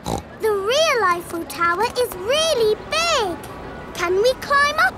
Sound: snorts

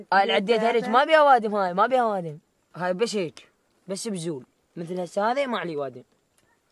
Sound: group speaking in foreign language continues

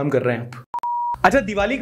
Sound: beep

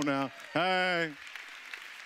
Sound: audience clapping

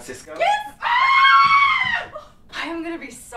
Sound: loud, girly screaming

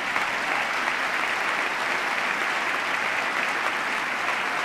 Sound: applause

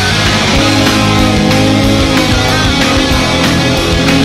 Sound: snowmobile running

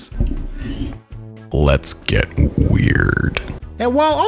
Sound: deep sexy voice

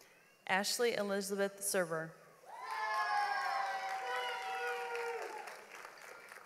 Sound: audience applauds

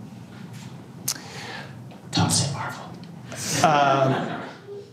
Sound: whispering; laughter

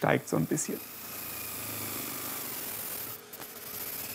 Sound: chattering machine noises

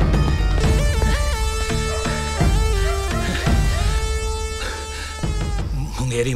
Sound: panting

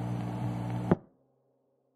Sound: click

